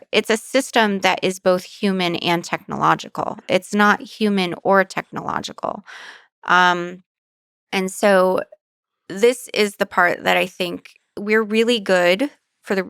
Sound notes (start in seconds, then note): none